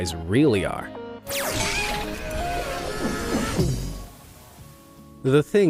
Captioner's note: cheerful music; whooshing